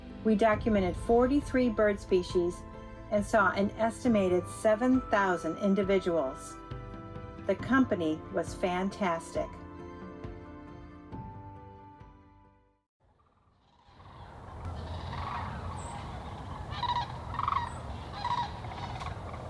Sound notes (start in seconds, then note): 15.3 cranes whooping